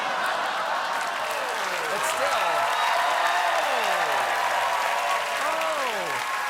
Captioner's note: cheers and applause